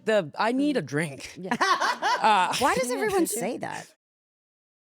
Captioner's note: laughs